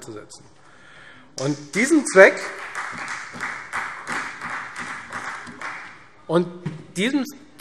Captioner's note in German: Beifall Freie Demokraten